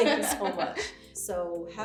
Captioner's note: laughs